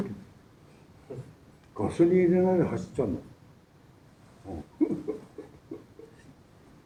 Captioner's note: laughs